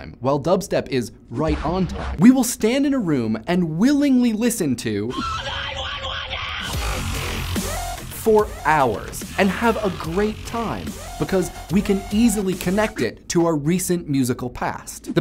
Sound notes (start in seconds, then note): 5.1 screaming